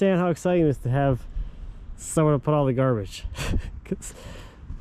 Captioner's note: chuckling